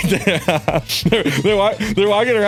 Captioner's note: laughs